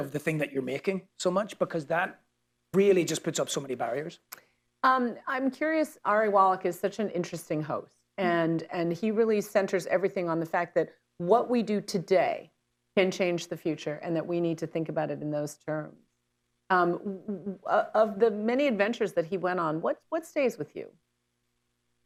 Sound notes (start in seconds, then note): none